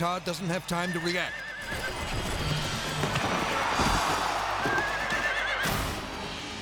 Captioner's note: horse neighs and thumps; people shouting; intense music